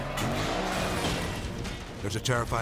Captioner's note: race car crashing